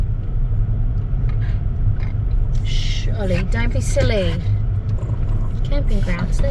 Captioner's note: dog huffs louder; Ollie lets out a small growl